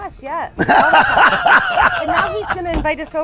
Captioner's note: laughing